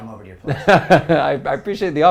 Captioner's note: laugh